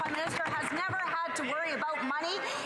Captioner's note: some Applause